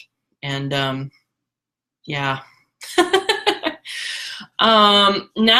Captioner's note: laughs